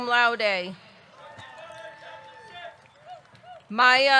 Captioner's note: audience cheering